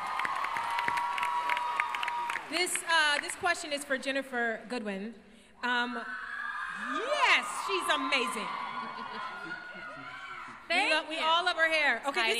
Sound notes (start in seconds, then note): 0.0 crowd cheers; 6.1 crowd cheers